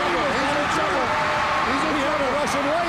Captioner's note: audience cheers